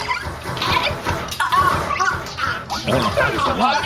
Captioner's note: death rattle